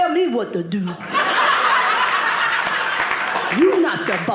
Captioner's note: audience laughing